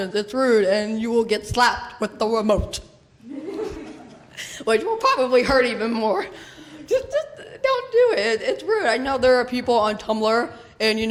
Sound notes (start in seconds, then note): 3.2 laughter